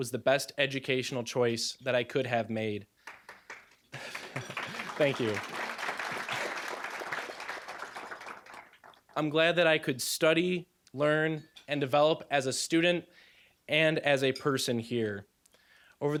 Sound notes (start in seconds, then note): 3.0 applause; 3.9 chuckling; 6.6 applause